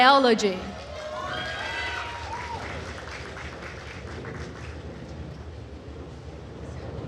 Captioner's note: attendees cheering and applauding